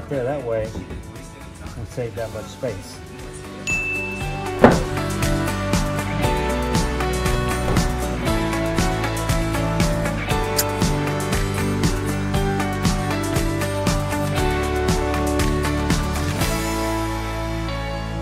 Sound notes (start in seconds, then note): 3.6 bell chimes; 3.8 uplifting music